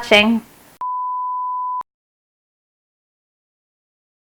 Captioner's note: audio tone